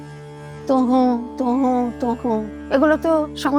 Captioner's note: chanting